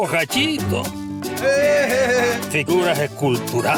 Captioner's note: drunk man laughs